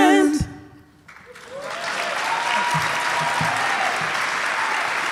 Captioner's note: audience applauding